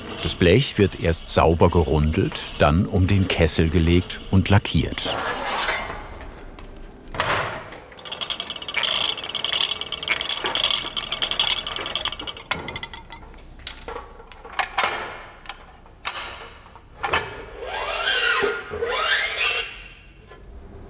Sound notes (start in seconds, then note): 5.1 metallic noises; 7.6 rattling; 13.5 working noises; 17.5 metallic whirring